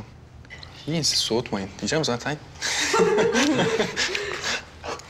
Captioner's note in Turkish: Gülmeler